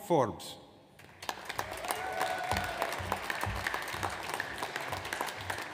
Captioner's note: audience applauds